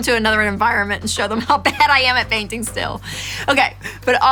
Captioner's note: laughing